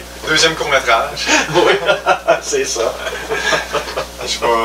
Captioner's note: laugh